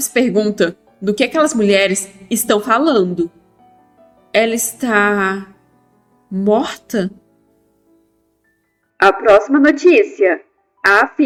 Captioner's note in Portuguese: voz da mulher do jornal